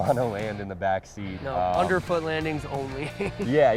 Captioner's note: laughs